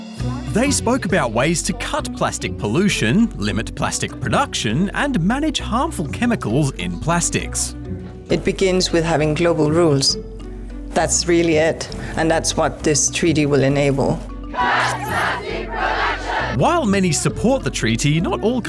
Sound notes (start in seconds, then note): 14.4 all chant